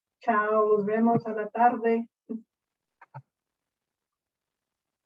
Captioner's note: speaking in foreign language